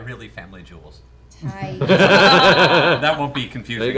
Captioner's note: laughter